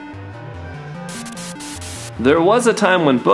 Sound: upbeat electronic music; static

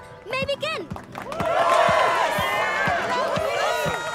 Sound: cheering

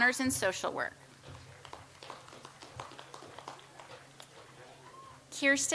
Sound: audience applauds

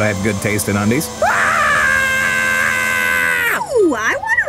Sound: Rowdy screams

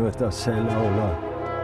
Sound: speaking in Hebrew

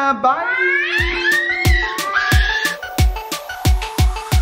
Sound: screaming; outro music

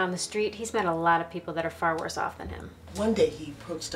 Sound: none

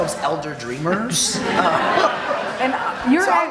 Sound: audience laughing

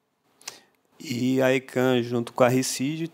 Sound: non-english speech

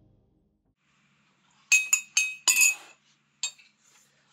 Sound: spoon rattling in cup loudly

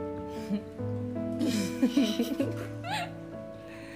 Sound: chuckling

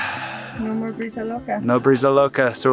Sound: sigh; crazy wind

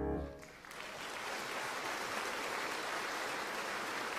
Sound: audience clapping

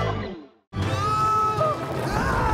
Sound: screaming

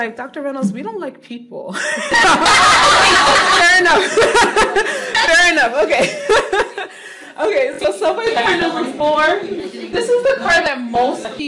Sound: laughing

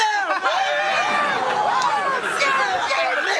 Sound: cheering

